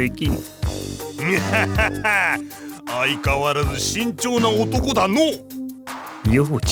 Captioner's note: laugh